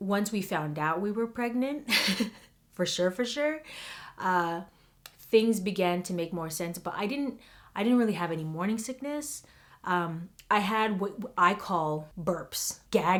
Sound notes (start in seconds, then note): 1.8 she laughs